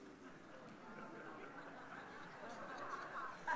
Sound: laughter

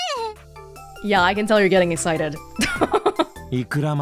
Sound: chuckles

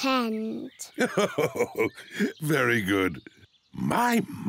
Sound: laughs

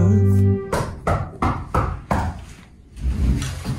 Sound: knocks on door

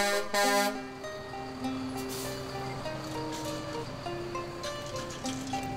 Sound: truck horn blares; upbeat music

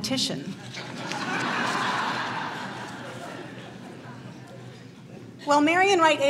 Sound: laughter

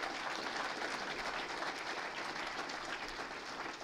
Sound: applause

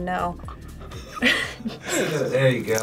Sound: both laugh

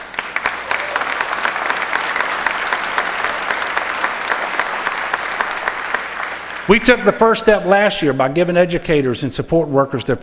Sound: applause

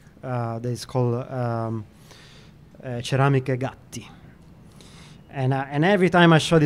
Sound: italian

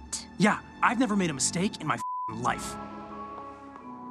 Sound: beep

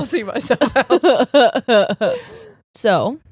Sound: laughing

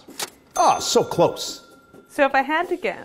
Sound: cash register bell ringing

